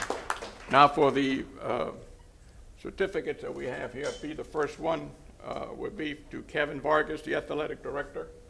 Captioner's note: applause